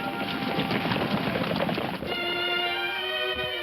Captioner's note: hooves thumping; dramatic music playing